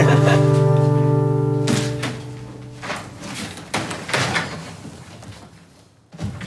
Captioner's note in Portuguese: risadas; barulhos de arrumação